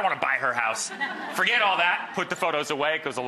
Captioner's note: audience laughs